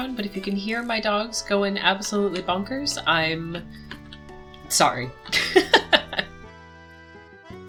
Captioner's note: laughter